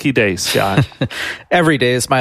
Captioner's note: laughing